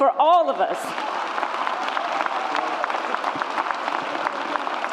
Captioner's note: audience applauds